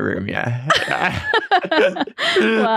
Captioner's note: laugh